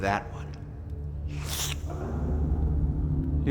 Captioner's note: disgusting slurp